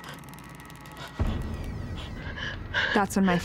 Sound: door opening

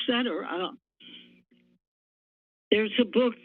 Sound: pause

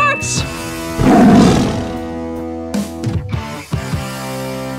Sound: lion roaring

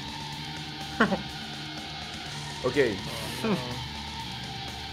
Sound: laughs

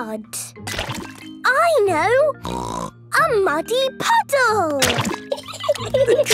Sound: laughing

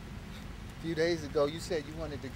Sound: scoffs

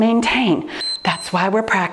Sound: timer beeps

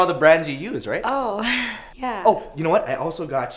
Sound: laughs awkwardly for a second

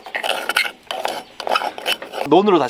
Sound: digging

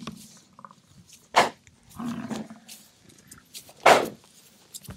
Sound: buffalo snorting

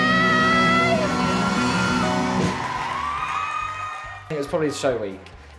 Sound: cheering and applause

